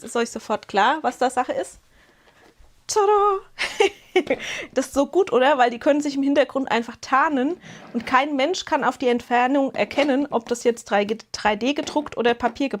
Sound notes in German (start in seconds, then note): 3.6 gelächter